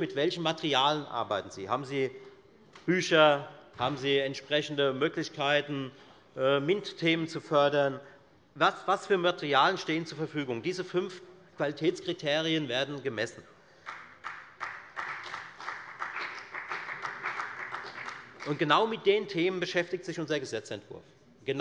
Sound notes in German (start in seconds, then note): 13.8 Beifall bei der FDP